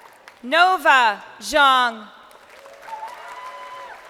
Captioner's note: crowd cheering